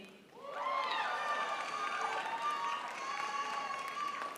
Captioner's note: crowd applauds